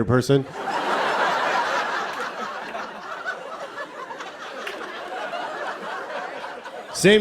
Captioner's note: laughter